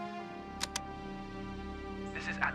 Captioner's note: click